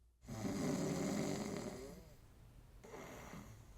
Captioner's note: snoring